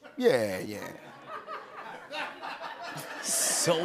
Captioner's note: laughter